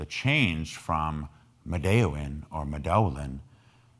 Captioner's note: speaking in foreign language